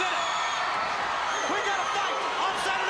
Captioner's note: crowd cheering